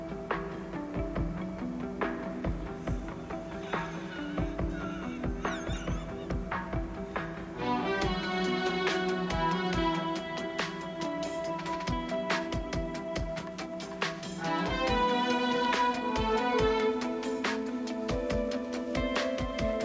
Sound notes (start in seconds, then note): 3.0 laughing